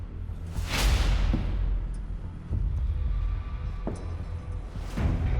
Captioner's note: slow footsteps approach